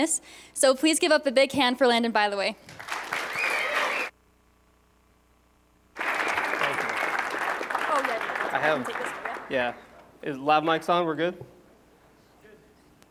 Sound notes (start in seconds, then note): 5.9 applause